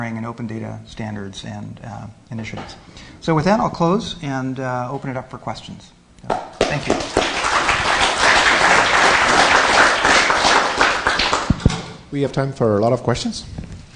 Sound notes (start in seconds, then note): 6.6 applause